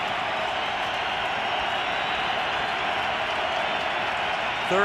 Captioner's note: cheering